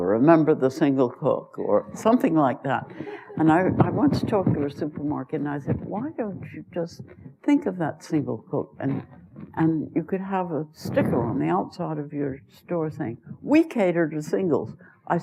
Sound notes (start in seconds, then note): 2.9 laughter